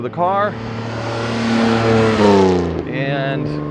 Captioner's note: engine revving